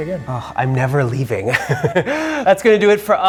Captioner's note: laughing